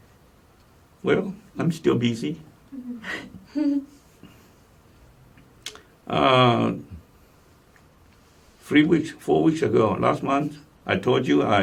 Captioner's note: laugh